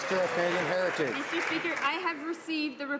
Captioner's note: some Applause